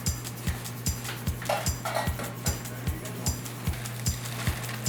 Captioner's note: pans clanging; paper scrunching